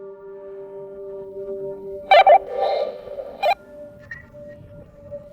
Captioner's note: walkie-talkie chatter